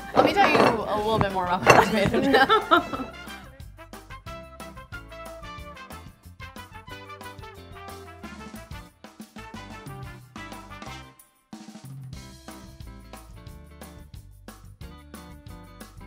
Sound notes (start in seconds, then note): 1.8 laughs; 2.6 fanfare music plays